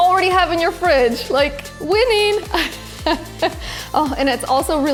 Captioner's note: laughs